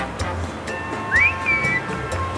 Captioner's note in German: Pfeifen